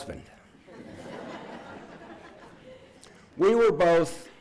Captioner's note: laughing